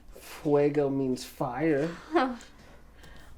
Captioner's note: speaks in foreign language